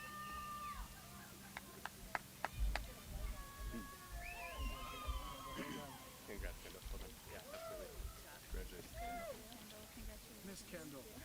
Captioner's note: applause